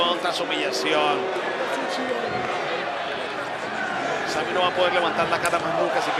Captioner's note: applause